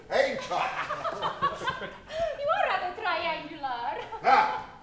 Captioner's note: BUTTERCUP, laughing